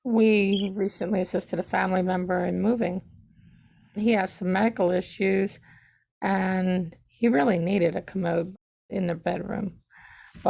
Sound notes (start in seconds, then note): none